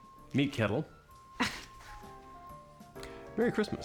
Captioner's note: scoffs